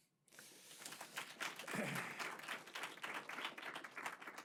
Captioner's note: audience applause